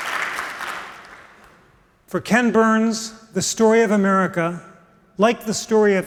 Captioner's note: applause